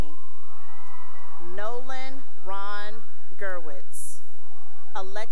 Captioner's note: cheering; cheering